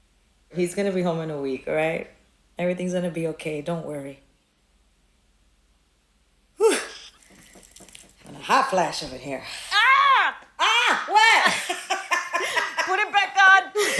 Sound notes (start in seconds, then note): 11.0 both laughing